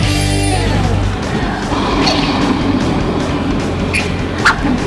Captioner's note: smooching